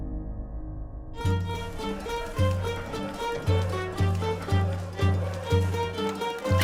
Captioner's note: upbeat music; people laughing